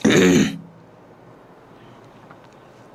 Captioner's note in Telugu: గొంతు సవరించుకోవడం